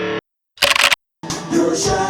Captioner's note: keyboard typing sounds; singing: You're a shining star